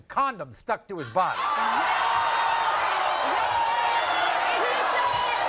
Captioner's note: audience gasping